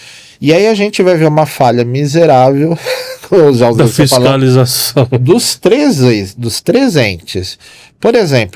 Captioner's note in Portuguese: risadas